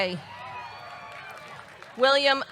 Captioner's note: audience cheering; audience clapping